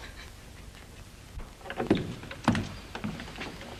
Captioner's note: woman laughing